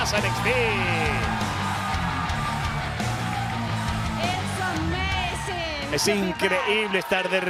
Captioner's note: applause